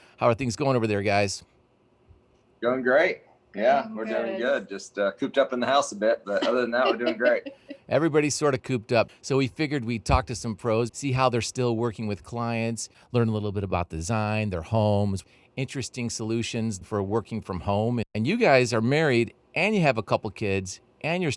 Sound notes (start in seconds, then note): 5.3 laughs